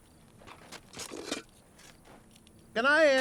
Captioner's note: shovel scraping